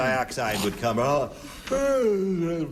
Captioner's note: yawning